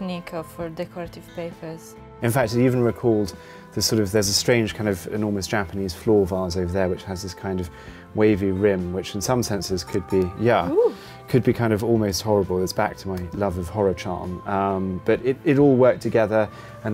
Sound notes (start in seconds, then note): 10.7 ceramic ringing